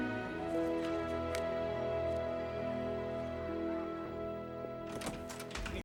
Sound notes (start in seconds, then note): 4.7 door Opens